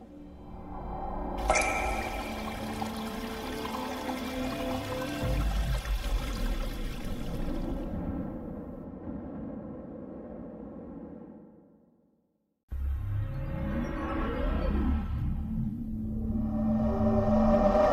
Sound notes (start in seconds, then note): 1.4 water cascading; 6.8 dramatic winds blowing